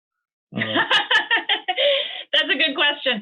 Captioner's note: laughing